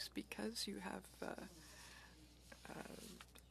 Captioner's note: speaking French